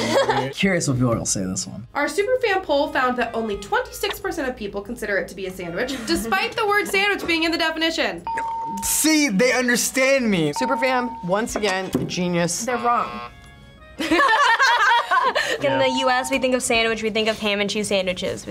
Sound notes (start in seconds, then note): 8.2 bell rings; 14.0 laughs